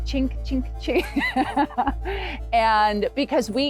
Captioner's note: laughing loudly